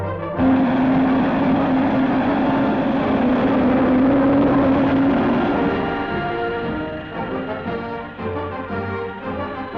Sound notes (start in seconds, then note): 0.8 engine rumbles; 6.8 machinery whirs